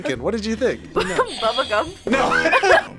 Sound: laughs; buzzer rings

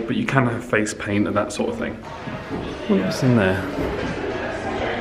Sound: none

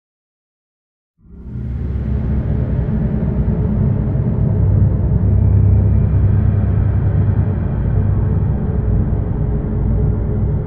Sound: sound of temple cave

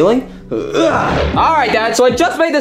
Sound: Mario grunting

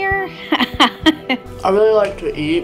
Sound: chuckles

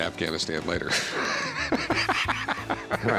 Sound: laughs

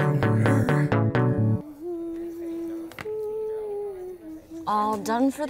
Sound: humming

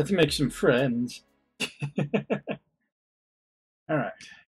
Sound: chuckles

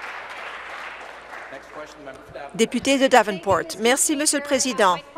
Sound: applause

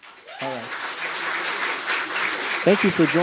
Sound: applause

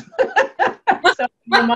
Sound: laughs

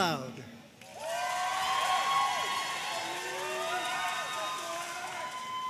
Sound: audience cheering and applauding

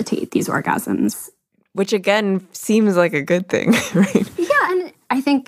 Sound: chuckles

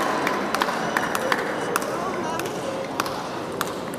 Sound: applause

